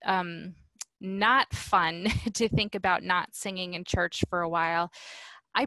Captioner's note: laughter